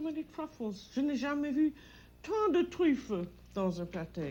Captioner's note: both conversing in French